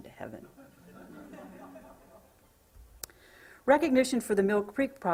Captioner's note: laughter